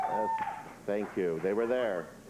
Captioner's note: audience cheers